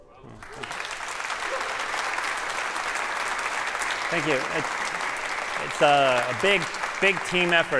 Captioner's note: applause